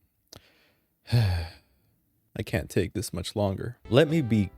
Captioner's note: sigh